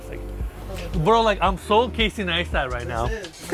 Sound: laughs

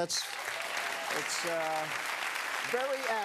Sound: cheers and applause

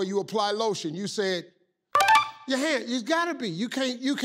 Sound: ding

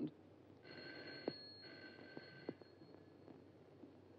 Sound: phone rings

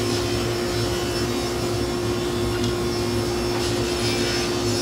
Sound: sawing wood

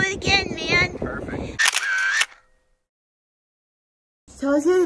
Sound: camera clicks

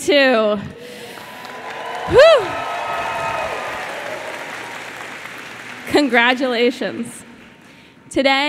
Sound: applause

